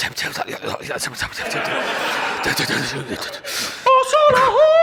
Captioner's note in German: murmelt